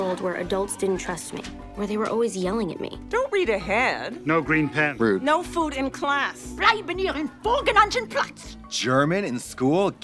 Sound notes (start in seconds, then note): 6.6 in German: "Stay in your assigned seat!"